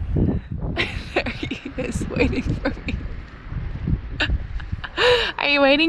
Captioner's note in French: rires